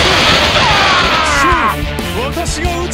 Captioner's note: KO Scream